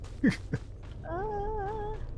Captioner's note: laughs